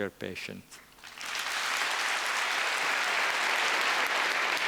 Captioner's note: applause